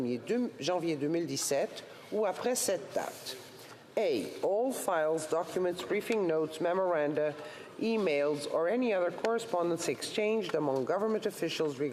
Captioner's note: speaking French